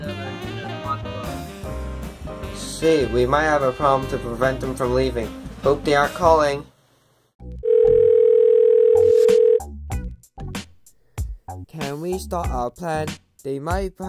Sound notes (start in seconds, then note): 7.6 phone dialing